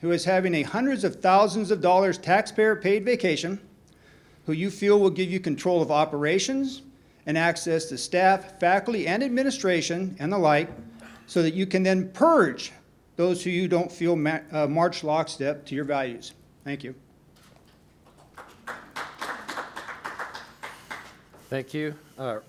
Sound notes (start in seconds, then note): 18.0 applause